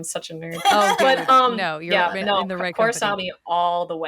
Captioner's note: laughs